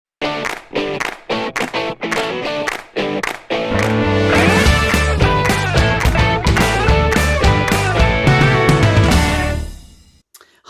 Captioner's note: claps